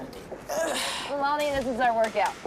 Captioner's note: grunts